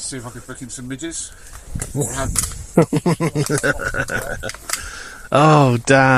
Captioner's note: laughter